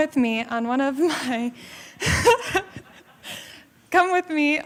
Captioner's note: laughter